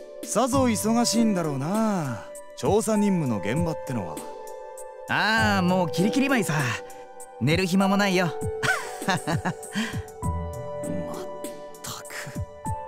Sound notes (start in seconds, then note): 8.6 laugh